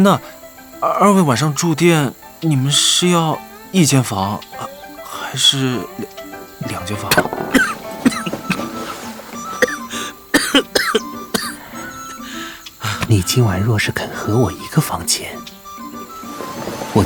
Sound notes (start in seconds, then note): 6.6 cough